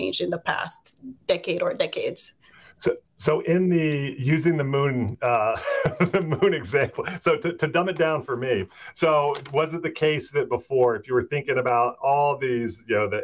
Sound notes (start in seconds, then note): 5.2 chuckles